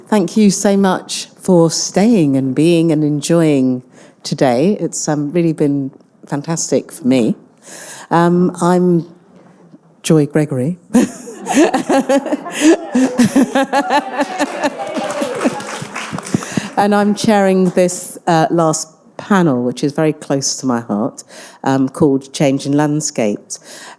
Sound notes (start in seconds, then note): 11.0 laughs; 15.0 attendees applauding